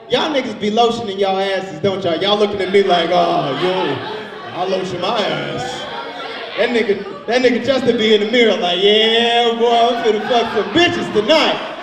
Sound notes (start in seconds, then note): 5.4 overlapping chattering